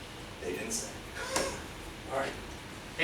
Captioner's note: laughs